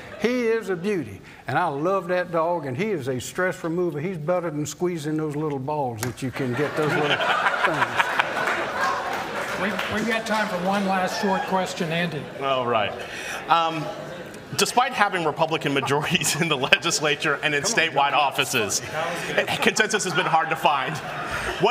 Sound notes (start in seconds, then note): 6.3 laughter